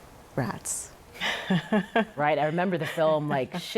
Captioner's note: laughs